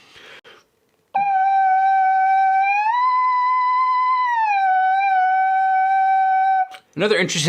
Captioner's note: buzzing